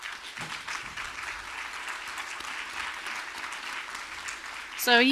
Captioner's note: audience applauding